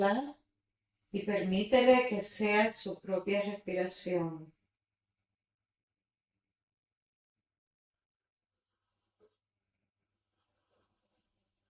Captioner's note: silencio